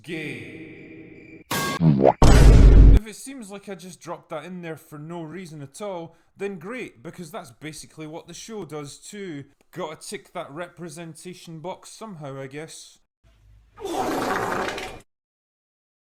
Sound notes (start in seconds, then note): 1.5 various Sound Effects; 13.8 fart Sound Effect